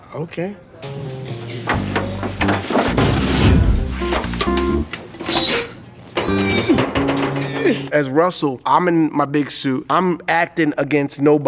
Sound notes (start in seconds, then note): 0.8 determined music; 6.2 groans